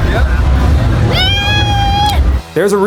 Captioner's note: yells